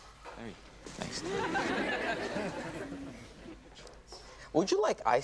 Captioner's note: audience laughs